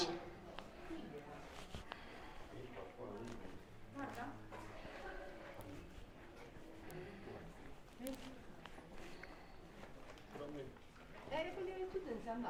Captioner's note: background chatter